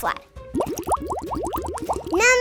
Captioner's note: water bubbling